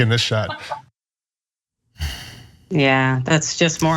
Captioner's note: laugh